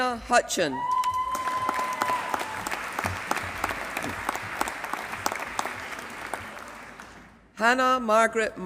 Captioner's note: applause